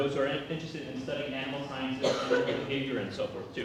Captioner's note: cough